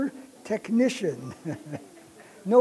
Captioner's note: chuckle